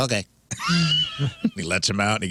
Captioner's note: laughing